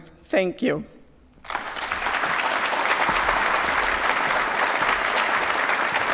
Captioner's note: applause